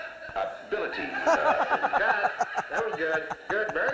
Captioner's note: laughter